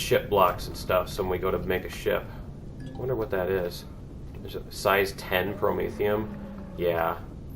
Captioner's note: ding